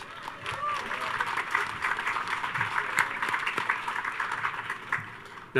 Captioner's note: audience cheers and applauds